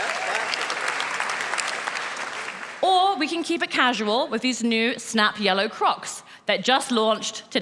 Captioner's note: applause